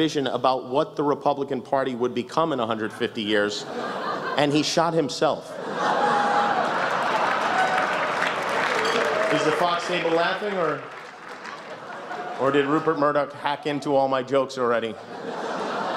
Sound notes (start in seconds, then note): 5.6 laughter, cheers, applause